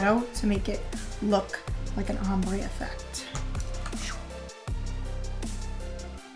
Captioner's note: imitates whooshing